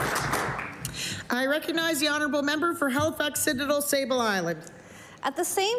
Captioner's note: applause